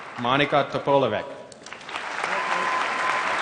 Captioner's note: applause; applause